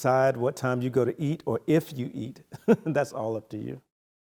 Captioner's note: chuckles